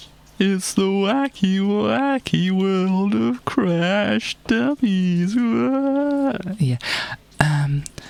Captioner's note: in an over the top voice